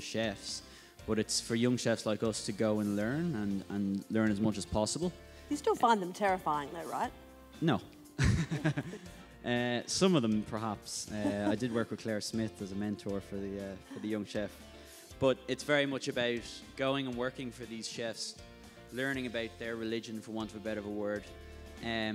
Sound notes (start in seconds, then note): 8.2 laughs